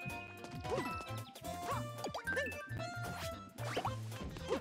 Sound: none

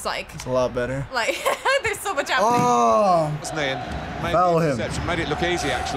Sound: laughs

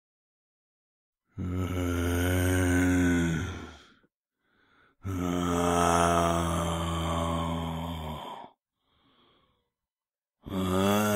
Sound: moaning

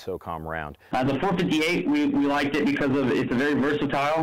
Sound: voiceover

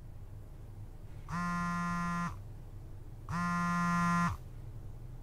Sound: mobile ringing

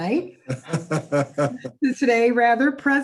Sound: laughs

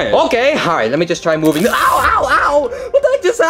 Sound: electric buzzes

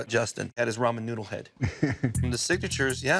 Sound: laughs

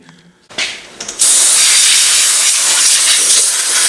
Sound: air blowing

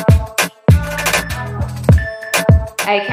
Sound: timer beeping

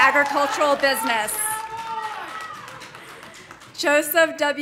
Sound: man shouting

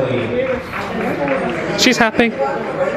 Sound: guests applauding

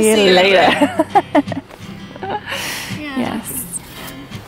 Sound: laughs

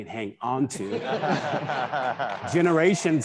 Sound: attendees laughing

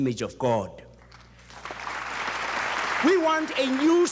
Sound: audience applauds

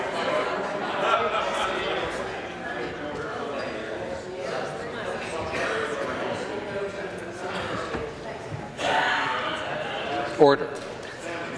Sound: conversation din

